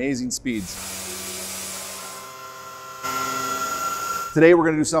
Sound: Titan buzzing

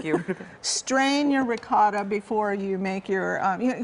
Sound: laughter

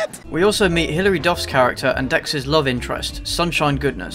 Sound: none

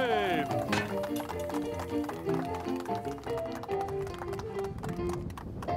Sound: audience and gentlemen clapping and cheering

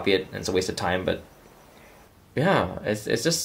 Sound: kids reciting

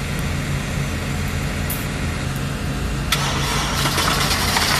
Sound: machinery growling

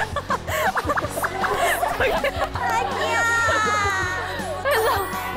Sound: shot steps

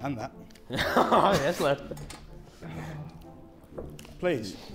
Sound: laughing

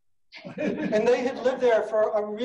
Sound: laughing

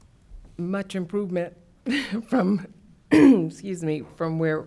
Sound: clears throat

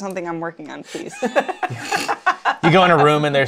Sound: laughter

